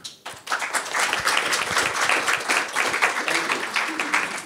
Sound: people applauding

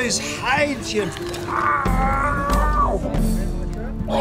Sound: drunkard groans

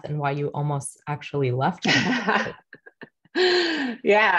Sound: laughing

